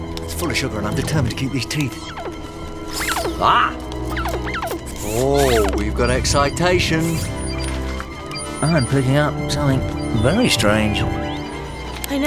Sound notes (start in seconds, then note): 7.2 beeping; 10.9 static warbling